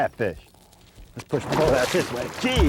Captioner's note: big splashing